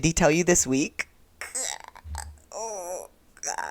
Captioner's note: sounds of cringe/pain